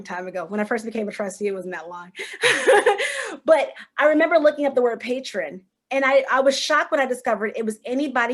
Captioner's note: laughter